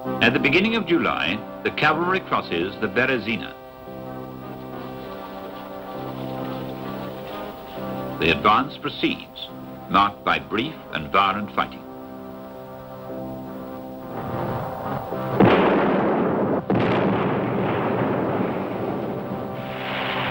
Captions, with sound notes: At the beginning of July, the cavalry crosses the Berezina. The advance proceeds, marked by brief and violent fighting. (gunfire booming)